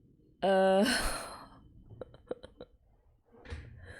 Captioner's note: laughs